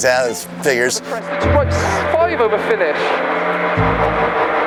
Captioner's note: car engine raving